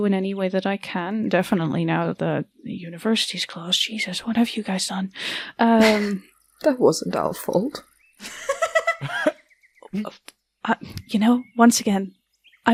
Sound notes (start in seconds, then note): 8.2 chuckles; 8.2 laughter